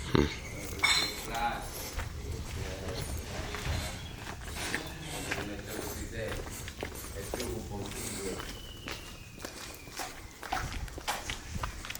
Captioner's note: construction Workers Chatting